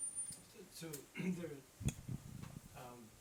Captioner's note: clears throat